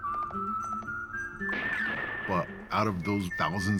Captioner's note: gun fires, horse galloping